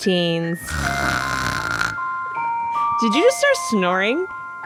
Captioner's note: snoring